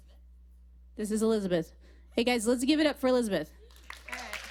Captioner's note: applause